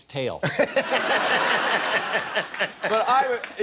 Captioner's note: laughter